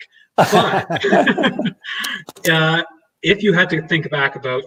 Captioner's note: both laughing